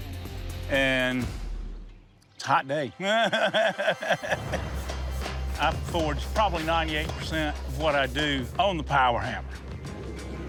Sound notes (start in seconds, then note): 3.0 laughs